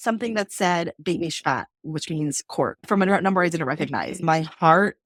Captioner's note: Hebrew